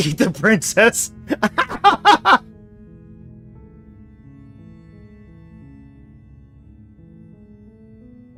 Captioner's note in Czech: smích